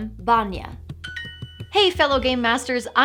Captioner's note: Duolingo chime